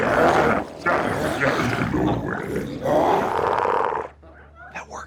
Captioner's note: glowzies grunting continues